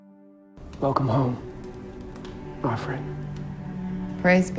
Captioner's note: voiceover